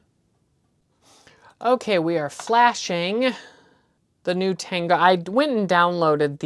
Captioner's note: stammers